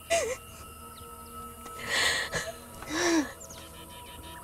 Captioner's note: Jessica Crying